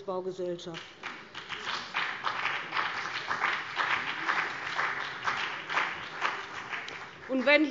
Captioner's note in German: Beifall